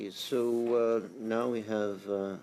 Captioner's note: speaking French